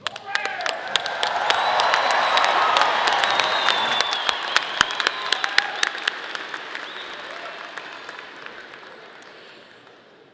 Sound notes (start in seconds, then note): 0.0 audience applauding; 0.0 audience cheering